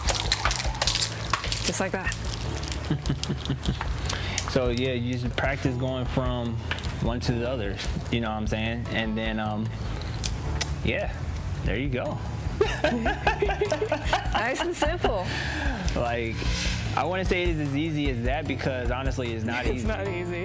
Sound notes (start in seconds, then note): 2.8 chuckles; 12.6 both laugh